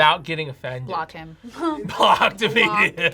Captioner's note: laughs